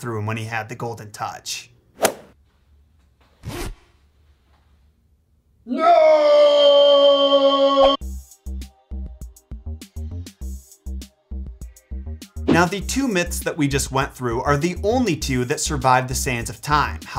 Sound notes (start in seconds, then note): 3.4 zipper zipping; 8.0 upbeat electronic music